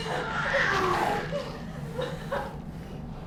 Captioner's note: Kilin shrieks, softly